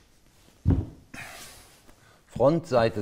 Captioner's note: strained panting